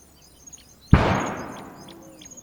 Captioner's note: shot